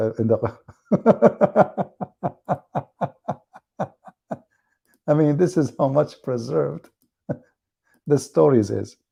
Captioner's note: Ketawa